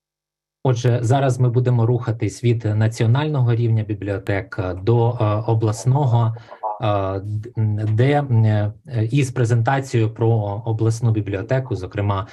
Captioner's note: foreign Language Spoken